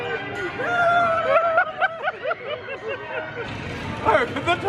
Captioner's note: shout